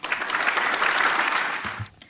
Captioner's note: applause